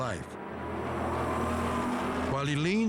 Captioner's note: engine roars